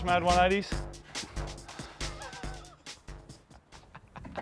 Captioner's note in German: Lacht